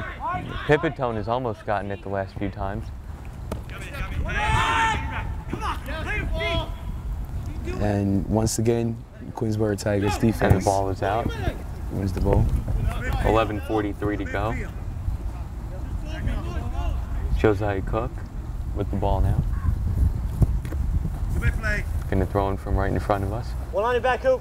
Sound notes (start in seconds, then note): 4.0 players talking and yelling